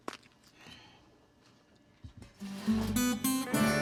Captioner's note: Mama exhales; back cracks; pie tin shuffling